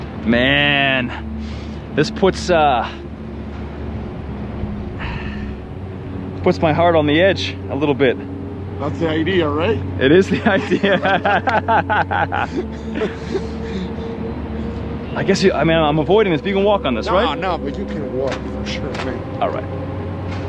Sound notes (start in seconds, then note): 10.0 laughing